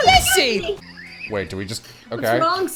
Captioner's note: wheezing